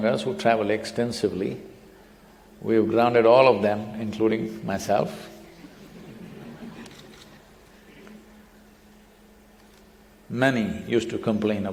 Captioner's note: laughter